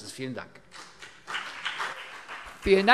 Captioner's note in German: Beifall CDU und BÜNDNIS 90/DIE GRÜNEN